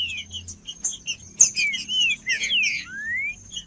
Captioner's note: trinca ferro cantando